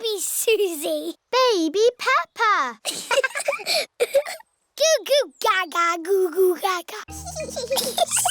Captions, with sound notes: -Baby Suzy! -Baby Peppa! (BOTH LAUGHING) Goo-goo-gaga! Goo-goo-gaga!